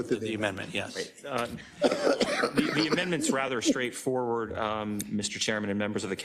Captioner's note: cough